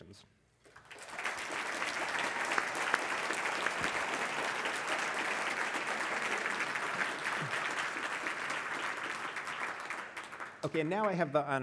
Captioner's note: applause